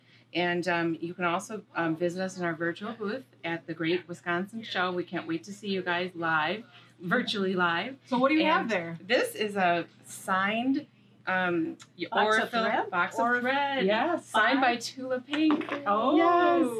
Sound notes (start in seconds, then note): none